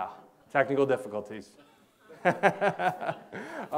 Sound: laughs

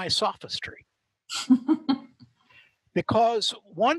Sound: laughs

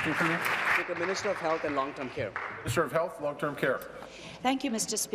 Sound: applause

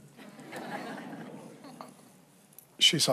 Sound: congregation laughs

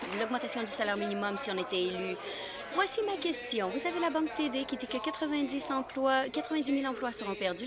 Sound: applause

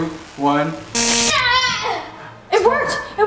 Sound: electronic tone

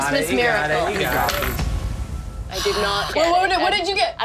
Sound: air whooshing

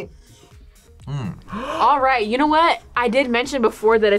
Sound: gasps

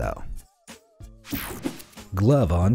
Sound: image whooshing

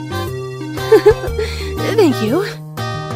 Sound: blushes and giggles

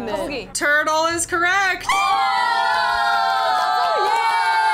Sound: members cheer

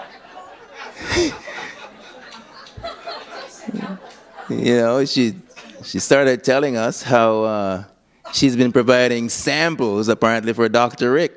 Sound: laughter

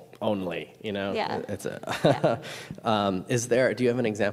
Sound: chuckles

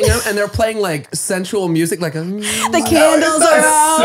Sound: hums

